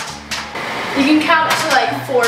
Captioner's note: popcorn popping